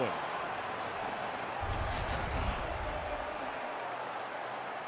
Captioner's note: crowd cheering